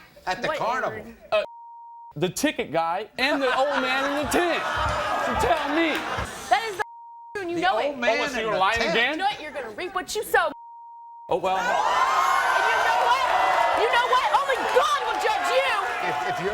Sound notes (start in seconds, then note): 3.3 Maury laughs; 11.5 crowd roars